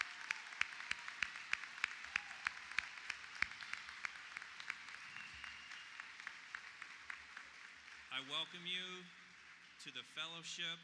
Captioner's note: applause